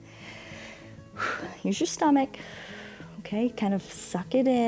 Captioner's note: inhales and exhales; exhales